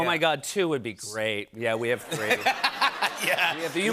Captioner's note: laughter